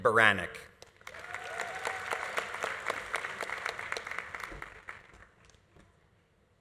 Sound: audience applauding; audience cheering

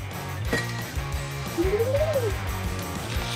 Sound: whistling

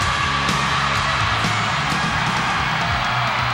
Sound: crowd cheering

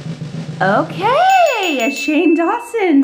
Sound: bell dings

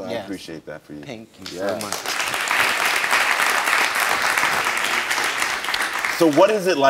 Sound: audience applauds

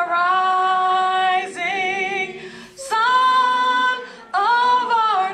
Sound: none

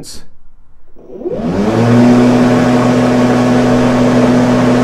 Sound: mower whirring

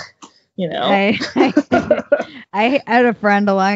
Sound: laughing

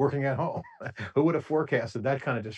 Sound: laughs

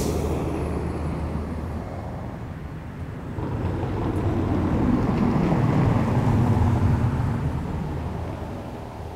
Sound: bus noise and air suspension hiss; car tires rolling over cobbled road; waves crashing below cliffs Light airplane in distance

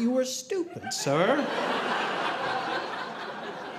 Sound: audience laughing

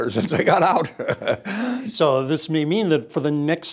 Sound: laugh

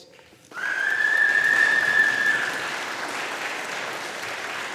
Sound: audience applauding

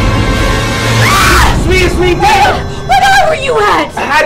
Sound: Janet screams

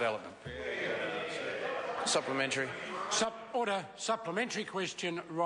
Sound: members speak loudly

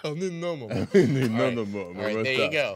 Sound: laughing

